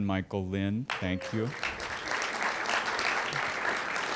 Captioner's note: applause